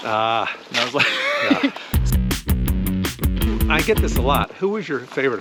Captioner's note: laughter